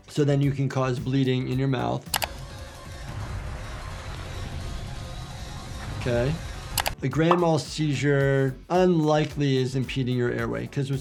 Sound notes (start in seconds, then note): 2.1 mouse clicks; 6.8 mouse clicks